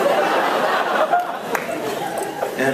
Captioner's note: laughs